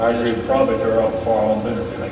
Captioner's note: Tony mumbles